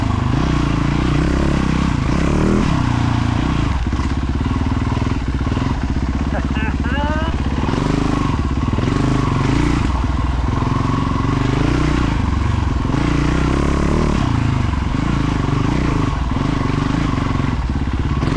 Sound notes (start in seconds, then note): 6.2 engine roaring